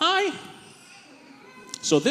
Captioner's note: baby whines